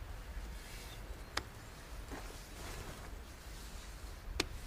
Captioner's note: hand patting